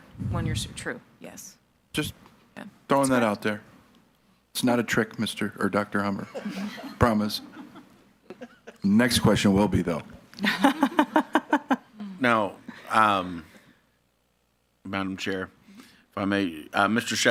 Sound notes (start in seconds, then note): 6.2 people laughing; 10.4 laughs